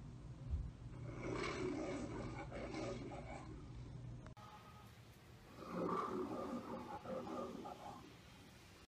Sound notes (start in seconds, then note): 1.1 Leo the Lion roaring amid camera noises; 5.6 Leo the Lion roars amid camera noises